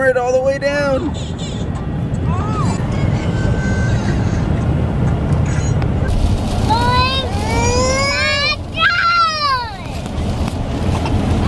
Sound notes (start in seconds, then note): 2.2 whining; 3.0 crying